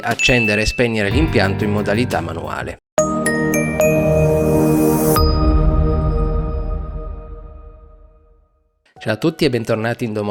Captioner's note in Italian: campana